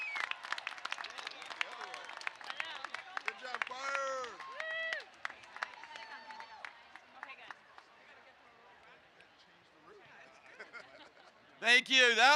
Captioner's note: cheers and applause